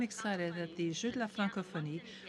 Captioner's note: speaking French